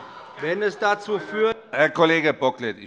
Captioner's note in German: Anhaltende Unruhe - Glockenzeichen